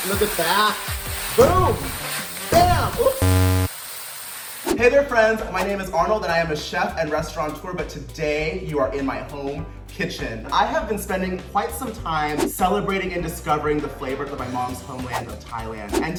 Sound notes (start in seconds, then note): 2.8 buzzer buzzing